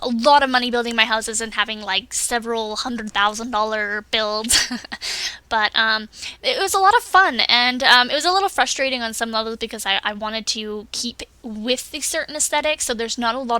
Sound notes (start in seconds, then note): 4.5 laughs